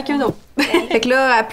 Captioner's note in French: Rires